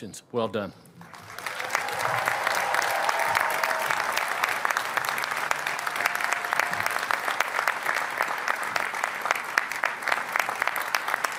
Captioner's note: applause